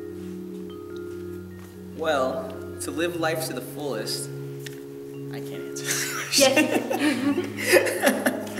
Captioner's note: laughing